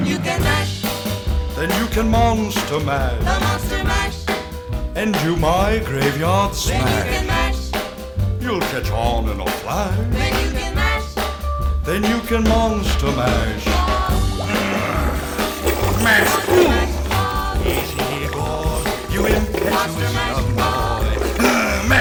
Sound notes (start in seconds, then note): 15.0 groaning